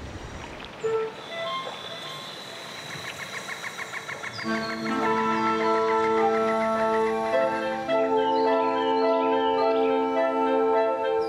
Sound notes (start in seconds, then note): 0.7 birds chirping; 0.9 gentle instrumental music